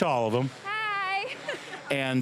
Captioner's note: laughing